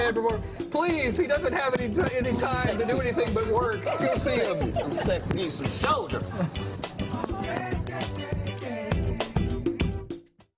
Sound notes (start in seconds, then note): 3.7 laughter